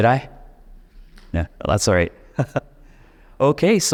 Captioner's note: chuckles